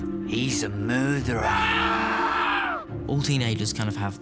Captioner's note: screams